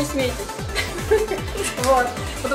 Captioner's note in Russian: сама смеётся